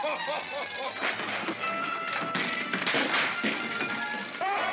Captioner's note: chattering sound of gears; Santa laughs; crashing sounds; Santa laughs